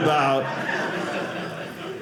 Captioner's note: audience laughing